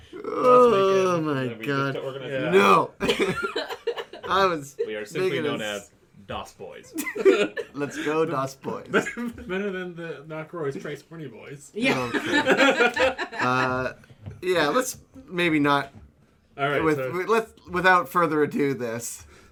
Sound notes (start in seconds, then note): 3.0 laughs; 6.9 laughter; 11.8 laughter; 12.0 trying to contain his laughter